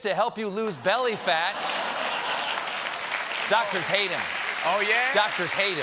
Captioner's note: applause